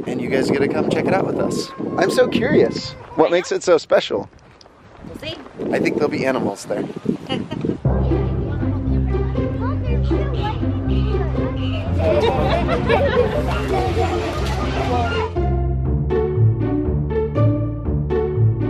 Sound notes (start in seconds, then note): 7.2 chuckles; 8.0 kids chattering; 12.0 giggling; 14.3 playful instrumental music